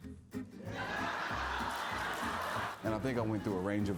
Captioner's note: crowd laughs